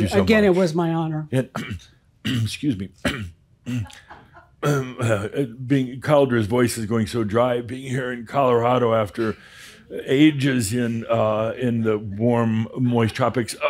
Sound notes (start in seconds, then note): 3.0 clears throat; 3.0 clears throat again; 8.0 talks like his voice is straining